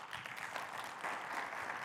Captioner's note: audience clapping